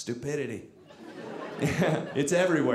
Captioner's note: audience laughing